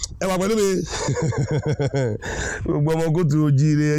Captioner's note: laughing